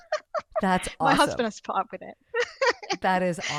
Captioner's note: laughs